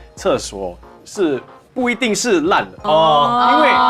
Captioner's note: ohh